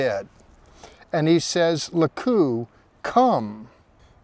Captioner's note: speaking in Hebrew